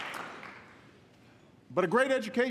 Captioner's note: applause